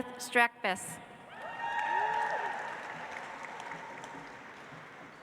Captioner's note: audience applauds